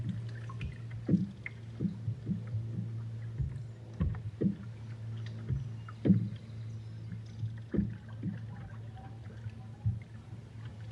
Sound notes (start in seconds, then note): 6.7 water trickling